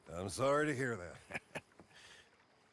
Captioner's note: laugh